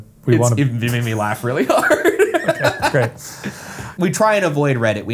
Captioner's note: laughs